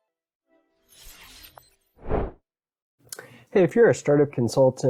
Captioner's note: air whooshing